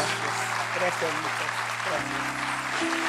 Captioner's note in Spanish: Aplausos